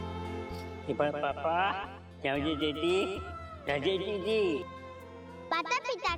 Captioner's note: Golu talking gibberish